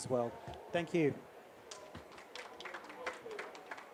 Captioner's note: applause